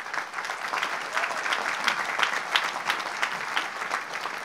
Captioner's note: audience applauds